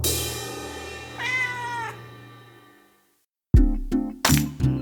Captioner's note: cymbals chiming; cat meowing